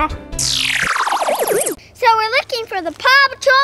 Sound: buzz

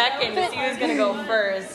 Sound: laughs

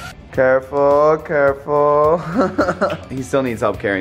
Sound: laughs

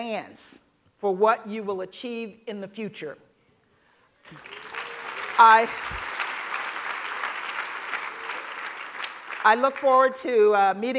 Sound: applause

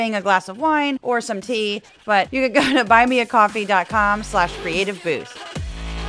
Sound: laugh

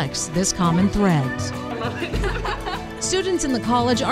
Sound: laughing

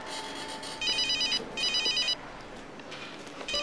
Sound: phone ringing

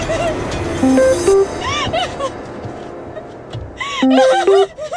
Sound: phone beeping

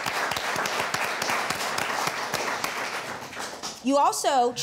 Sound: crowd applauds

